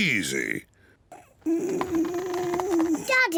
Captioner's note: groaning